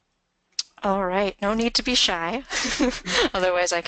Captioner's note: voiceover